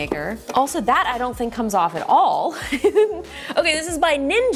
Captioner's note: chuckling